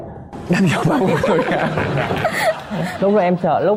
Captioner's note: laughing